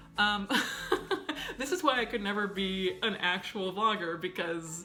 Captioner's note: laughs